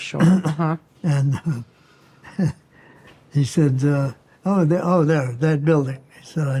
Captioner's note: chuckling